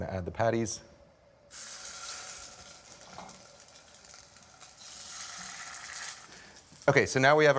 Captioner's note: sizzling